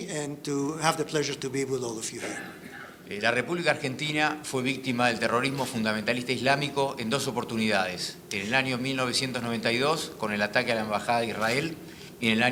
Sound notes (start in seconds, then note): 3.4 speaking in foreign language